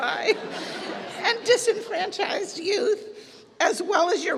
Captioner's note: laughter